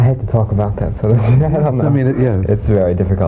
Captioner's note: laughter